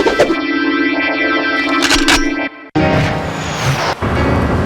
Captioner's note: gun cocks